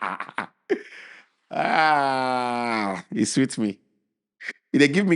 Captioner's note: laughing